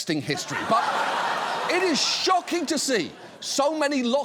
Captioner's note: audience laughs